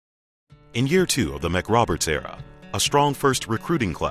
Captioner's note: voiceover